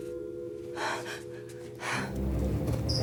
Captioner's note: Maddie gasps; dramatic music